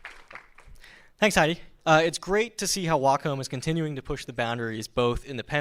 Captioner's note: applause